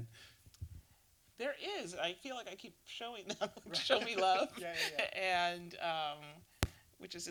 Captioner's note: laughs